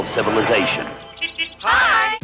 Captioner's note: car horn honks